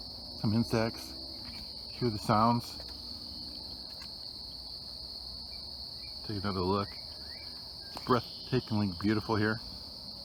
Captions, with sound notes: Some insects. Hear the sounds? (insects chittering) Take another look. Breathtakingly beautiful here.